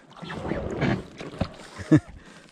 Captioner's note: slight Titanic sounds